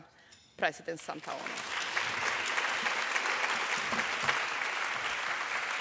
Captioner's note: audience applauding